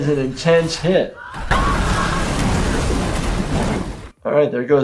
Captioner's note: buildings crashes